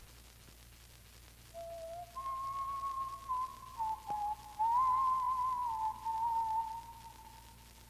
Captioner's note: whistling